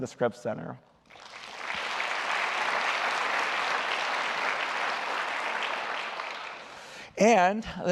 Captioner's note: applause